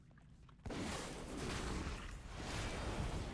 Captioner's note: explosions